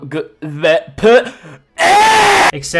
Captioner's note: calmly inhales